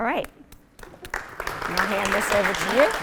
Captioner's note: applauding